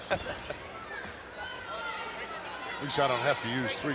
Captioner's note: laughs